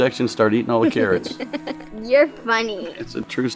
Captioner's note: laughs